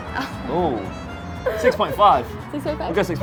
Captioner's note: laughing